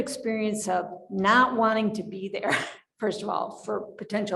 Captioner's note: laughs